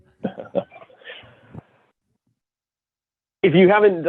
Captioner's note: chuckles